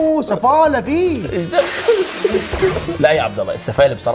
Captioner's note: laughing